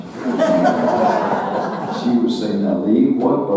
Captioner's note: audience laughing